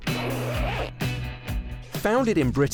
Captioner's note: zipper zipping